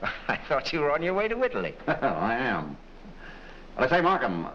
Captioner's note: chuckles